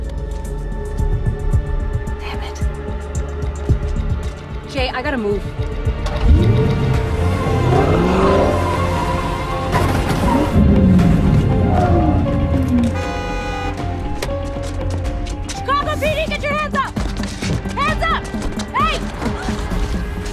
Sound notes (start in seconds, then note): 7.7 tires squeal; 12.1 honking